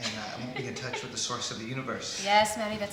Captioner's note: laughing